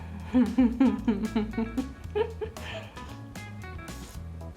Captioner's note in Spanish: Risas